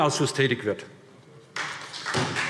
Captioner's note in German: Beifall SPD